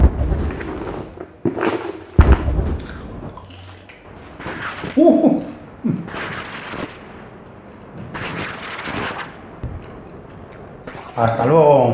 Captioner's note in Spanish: Explosiones